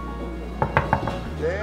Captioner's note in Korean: 똑똑똑